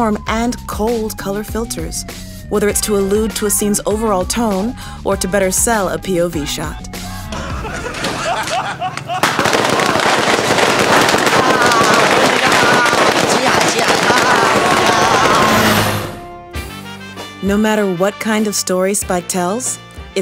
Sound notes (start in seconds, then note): 7.4 men laugh; 9.3 firecrackers pop